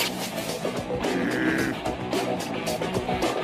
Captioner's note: growls